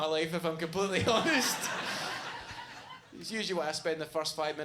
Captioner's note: audience laughs